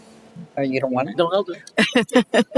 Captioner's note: laughter